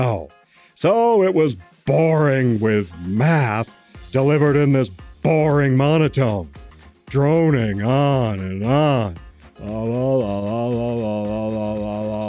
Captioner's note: droning in math